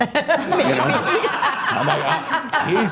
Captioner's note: all laughing